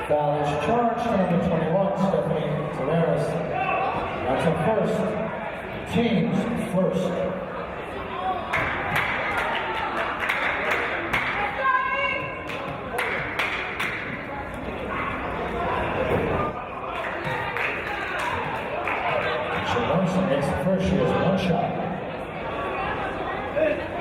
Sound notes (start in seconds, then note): 8.9 clapping